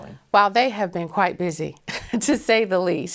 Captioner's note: laughing